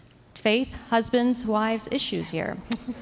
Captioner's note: laughter